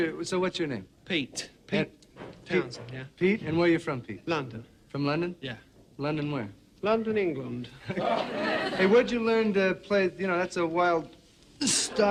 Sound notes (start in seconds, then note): 7.8 laughs